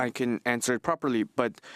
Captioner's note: speaking French